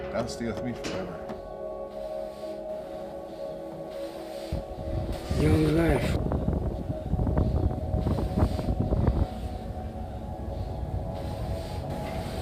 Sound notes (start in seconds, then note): 6.9 wind whipping